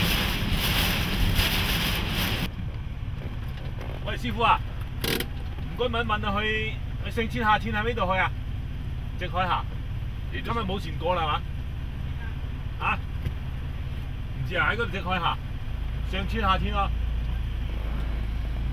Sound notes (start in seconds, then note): 0.2 voice shouting in Chinese; 5.2 Chinese voice continues as man outside gives directions